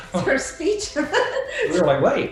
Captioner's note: laughing